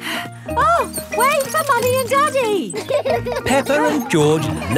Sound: panting

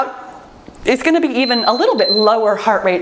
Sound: timer beeps

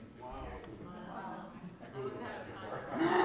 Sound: crowd; crowd laughs

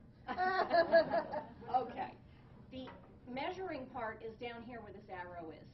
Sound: laughing

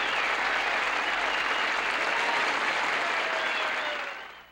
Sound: applause

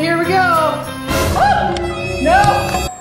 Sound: squeals

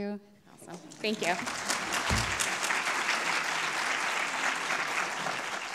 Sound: audience clapping

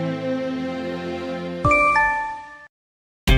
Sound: incoming Line message

